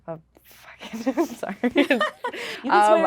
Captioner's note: laughing